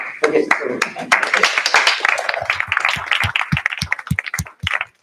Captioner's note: applause